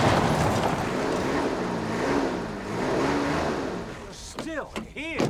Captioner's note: engine revving